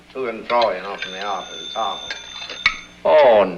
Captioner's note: ringing